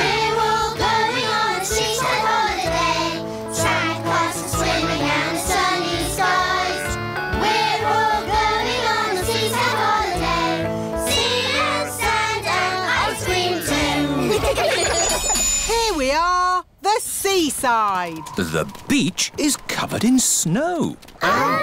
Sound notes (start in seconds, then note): 14.2 laughter